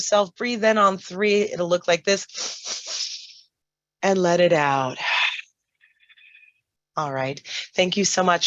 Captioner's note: inhales